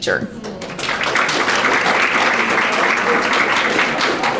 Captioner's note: audience applauding